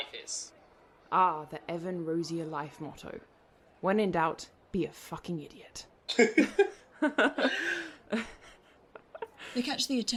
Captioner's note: both laughing